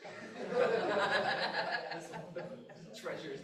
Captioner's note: laughter